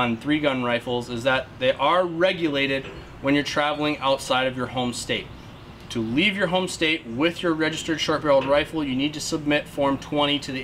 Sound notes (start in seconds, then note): none